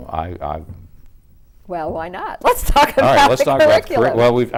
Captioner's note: laughs